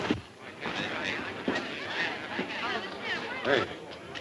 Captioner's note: patrons chatting